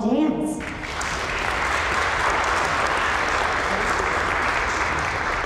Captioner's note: crowd applause